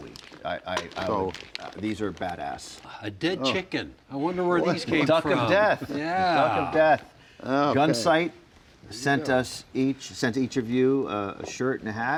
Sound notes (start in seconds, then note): 6.0 chuckling